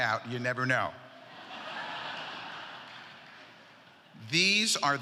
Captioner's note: laughter